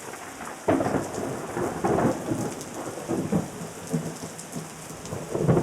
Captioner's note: thunder rumbling